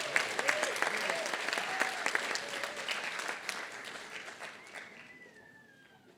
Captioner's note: applause